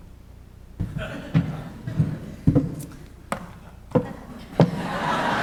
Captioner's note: audience laughing